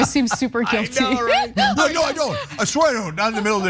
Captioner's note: laugh